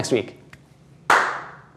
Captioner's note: clap